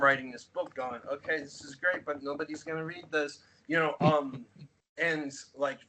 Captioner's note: chuckles